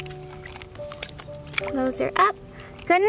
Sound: clam closing

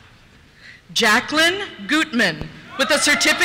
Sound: cheers

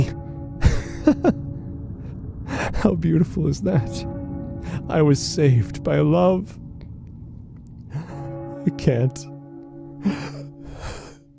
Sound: tolling bell

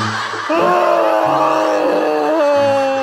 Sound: bawling

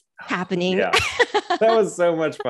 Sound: laughs

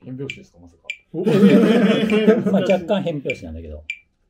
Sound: laughing

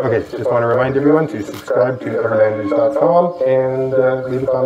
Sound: speaking over loudspeakers

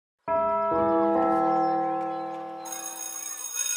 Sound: bell chimes

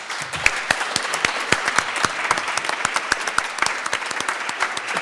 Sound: applause

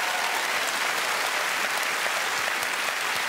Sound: applause

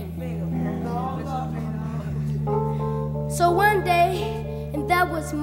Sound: brothers chatter

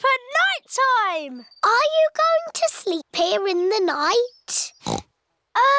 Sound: oinks

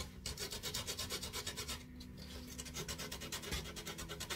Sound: sandpaper rustling

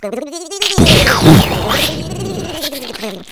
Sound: explosion

